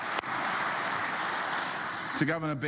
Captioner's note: applause